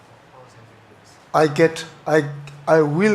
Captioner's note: audience member murmurs